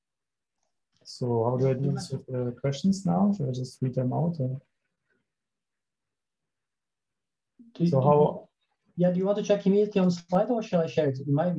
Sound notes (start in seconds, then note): 9.8 audio crackles